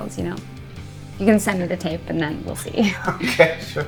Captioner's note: chuckles